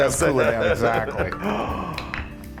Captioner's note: laugh